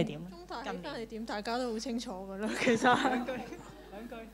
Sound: Cantonese

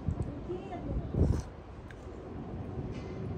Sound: slurp

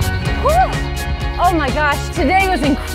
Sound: exhilerated gasp

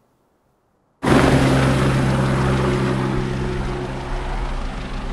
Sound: helicopter whirring

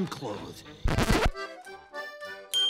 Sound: record scratch

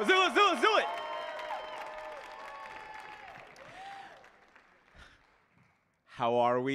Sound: audience cheering and applauding

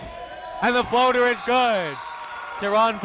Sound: crowd cheering

